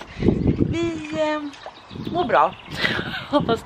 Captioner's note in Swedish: skratt